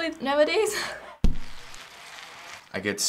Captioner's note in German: Fahrradräder rollen